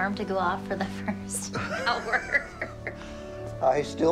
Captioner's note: both laughing